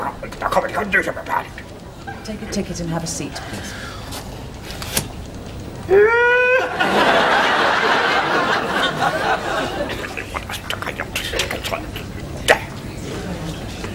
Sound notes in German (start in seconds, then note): 5.8 Schreit